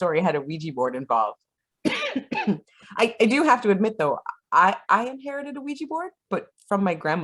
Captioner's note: coughs